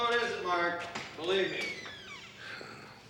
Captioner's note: sighs